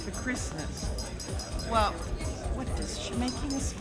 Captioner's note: tapping on glass